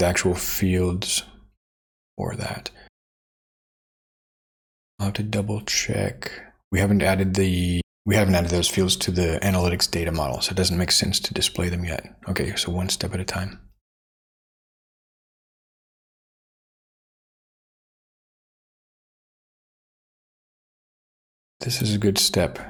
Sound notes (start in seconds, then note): 3.1 silence; 14.3 silence